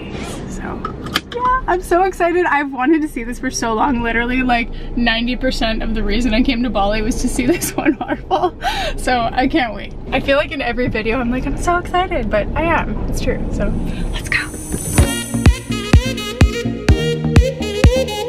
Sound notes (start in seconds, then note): 7.5 laughter; 14.9 upbeat electronic music